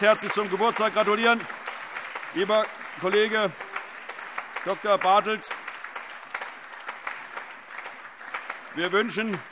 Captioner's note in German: Beifall